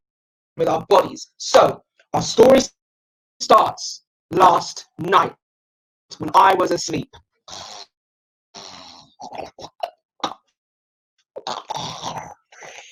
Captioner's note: snoring noise